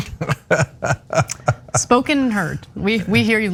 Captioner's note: laugh